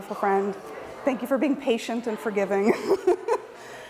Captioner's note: laughs